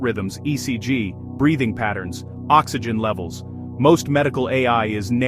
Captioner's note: breathing patterns